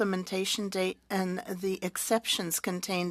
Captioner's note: speaking French